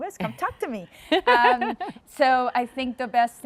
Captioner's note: laughs